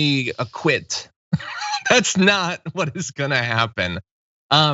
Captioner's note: laugh